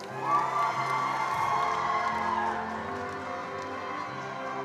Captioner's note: attendees applauding